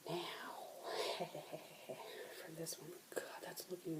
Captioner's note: evil laugh